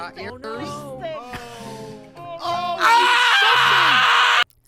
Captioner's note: general sounds of sadness